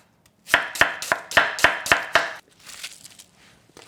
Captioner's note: knife tapping